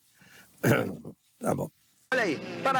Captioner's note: clears throat